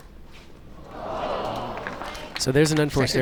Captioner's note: crowd groans